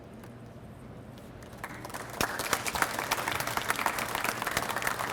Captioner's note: audience applauds